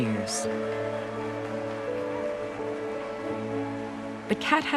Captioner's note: applause continues